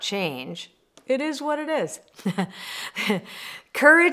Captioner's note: chuckles